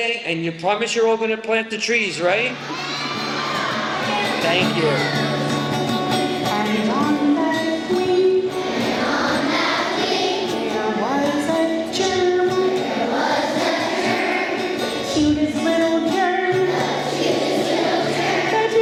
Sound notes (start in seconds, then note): 2.5 kids scream “Yeah!”